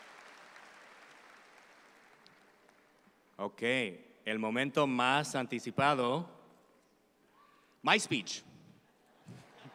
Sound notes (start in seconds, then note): 4.8 speaks in Spanish; 9.2 audience laughs